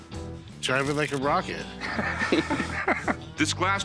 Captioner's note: laughter